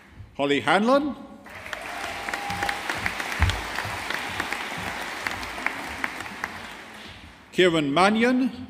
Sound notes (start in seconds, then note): 1.5 audience applauding